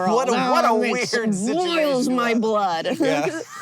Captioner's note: teeth clenched; BOTH laugh